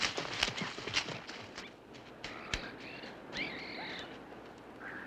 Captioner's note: birds chirping and cawing